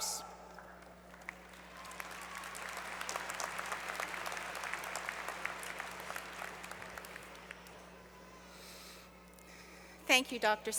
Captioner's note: applause